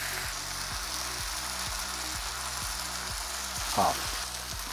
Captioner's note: sizzling sound